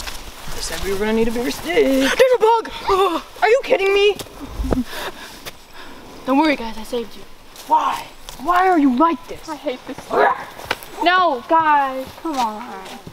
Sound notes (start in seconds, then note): 7.9 growl